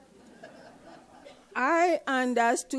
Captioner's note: audience laughs